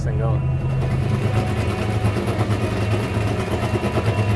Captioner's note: engine roaring